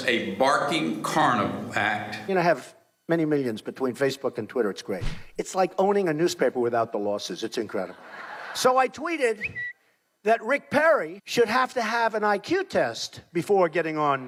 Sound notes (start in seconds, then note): 9.0 laughing; 9.4 bird tweeting